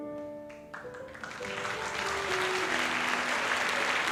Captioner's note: applause